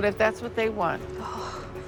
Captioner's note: sigh